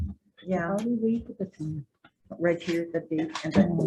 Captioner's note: committee members chattering